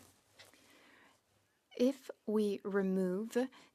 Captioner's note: speaking French